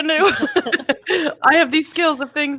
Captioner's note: both laughing